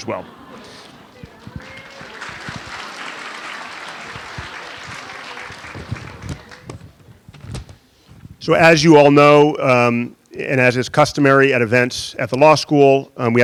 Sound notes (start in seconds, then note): 0.0 audience chuckling and chattering; 1.9 audience applauding